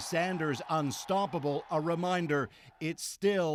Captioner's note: cheers and Applause